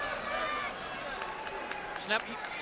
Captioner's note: spectators chattering